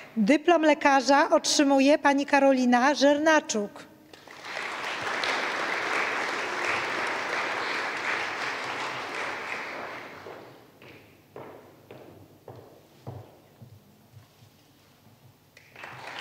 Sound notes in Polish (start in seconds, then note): 4.1 oklaski